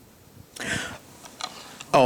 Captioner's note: gasps